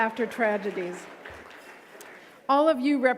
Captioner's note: audience clapping